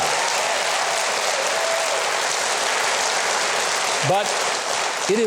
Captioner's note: audience applauding